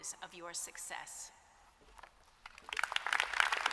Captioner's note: applause